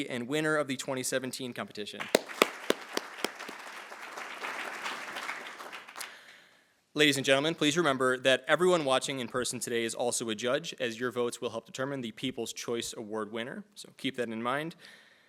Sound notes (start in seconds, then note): 2.0 attendees applauding